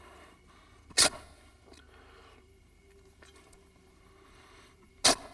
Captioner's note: shovel scraping